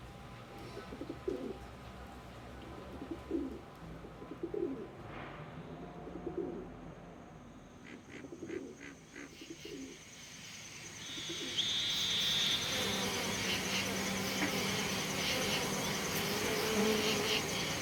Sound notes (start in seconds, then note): 7.7 frogs croaking; 11.4 insects chirruping; 12.1 bees buzzing